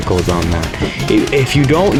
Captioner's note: inhales Oxygen